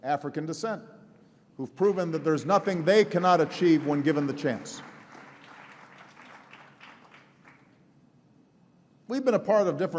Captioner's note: applause